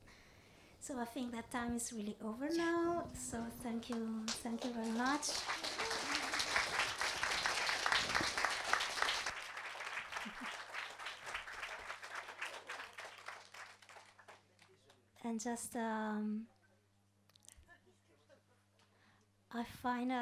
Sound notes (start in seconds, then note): 4.2 audience applauds